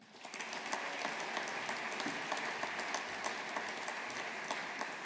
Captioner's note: audience applauding